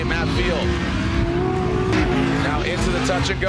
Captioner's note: engines revving